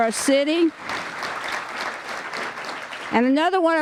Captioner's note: applause